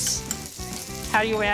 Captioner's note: food sizzling